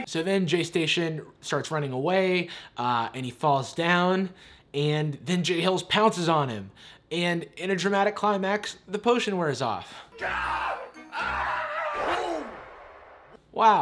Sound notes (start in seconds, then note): 9.8 yelling; 11.8 dramatic beat; 12.6 normal voice